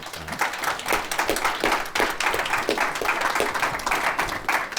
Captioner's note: audience applauds